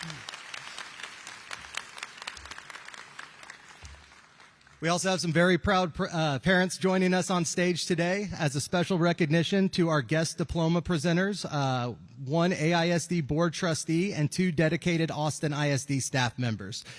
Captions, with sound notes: [APPLAUSE] WE ALSO HAVE SOME VERY PROUD PARENT JOINING US ON STAGE TODAY AS A SPECIAL RECOGNITION TO OUR GUEST DIPLOMA PRESENTERS. ONE AISD BOARD TRUY AND TWO DEDICATED AUSTIN ISD STAFF MEMBERS.